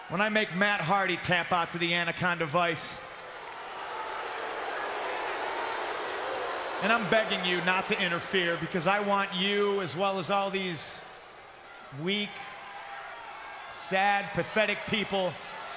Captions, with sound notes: when I make Matt Hardy tap out to the Anaconda Vice. (crowd boos) And I'm begging you not to interfere, because I want you, as well as all these weak, sad, pathetic people,